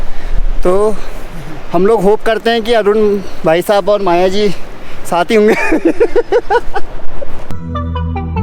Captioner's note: laughs